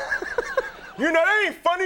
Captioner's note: Conan laughing